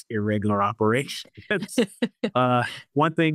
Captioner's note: chuckles